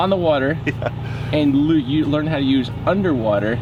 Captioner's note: chuckles